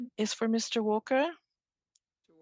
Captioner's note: speaking French